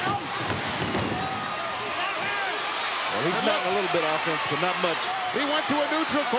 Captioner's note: applause